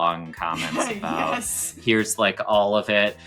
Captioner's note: laughs